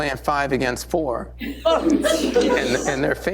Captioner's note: laughter